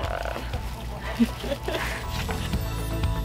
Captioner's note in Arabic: يضحك; موسيقى الآلات المبهجة